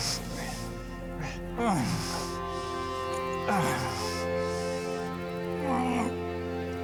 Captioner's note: Heck groaning